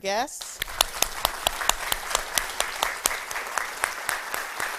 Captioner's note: audience clapping